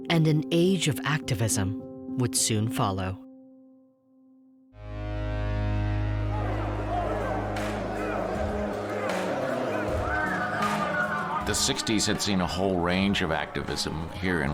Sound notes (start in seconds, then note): 5.6 angry crowd